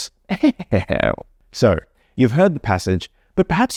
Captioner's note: haughty laugh